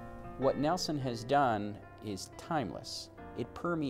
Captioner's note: voiceover